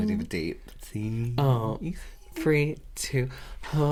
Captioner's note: in A Deep Voice?